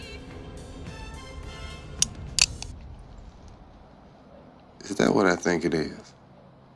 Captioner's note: noise of a gun being cocked